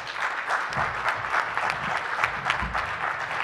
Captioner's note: applause